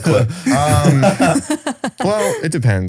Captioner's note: all laughing